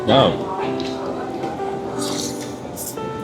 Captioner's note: nom nom nom